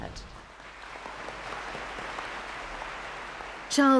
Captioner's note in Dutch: publiek applaudisseert